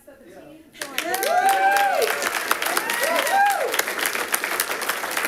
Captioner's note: all clapping and cheering